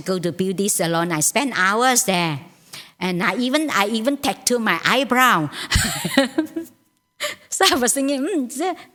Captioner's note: laughs